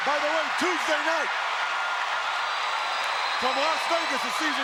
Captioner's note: crowd cheering